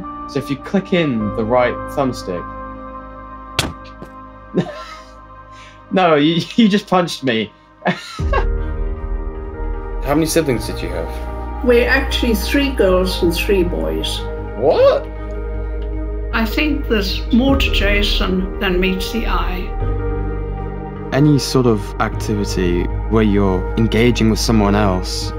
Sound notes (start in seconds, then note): 3.6 thud; 7.8 laughs